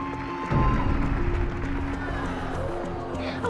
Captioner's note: cheering and applause; groaning